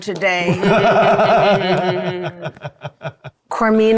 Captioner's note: players laughing